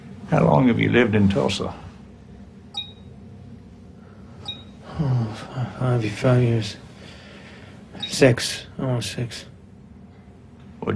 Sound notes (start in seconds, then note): 2.7 beeping